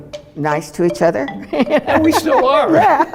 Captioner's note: laughing